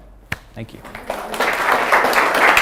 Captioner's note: applause